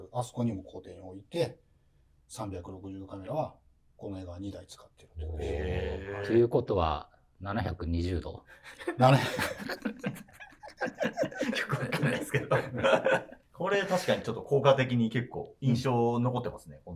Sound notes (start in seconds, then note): 8.7 laughing